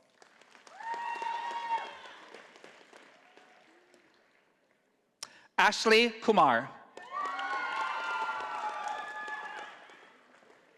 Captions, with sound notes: (audience applauding) Ashley Kumar. (audience applauding)